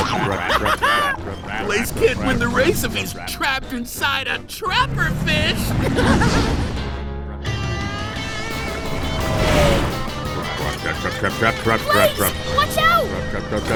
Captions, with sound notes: [laughing] Blaze can't win the race if he's trapped inside a trapper fish! [laughing] Trap, trap, trap, trap, trap, trap, trap, trap. Blaze, watch out!! Trap, trap, trap, trap.